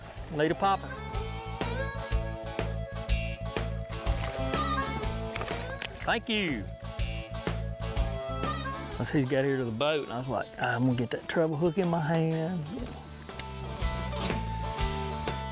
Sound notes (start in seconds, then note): 0.1 upbeat country rock music; 3.4 water splashing; 6.3 upbeat country rock music; 11.9 upbeat country rock music